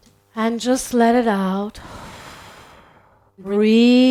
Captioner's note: exhales